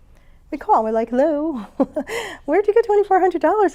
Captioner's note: chuckles